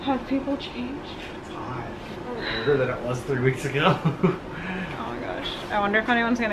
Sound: laughs

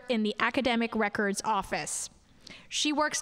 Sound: none

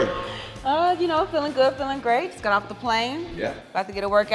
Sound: laugh

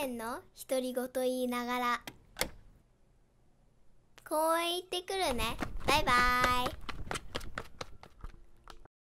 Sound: girls speaks in Japanese

